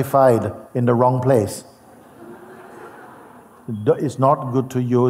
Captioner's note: Lachen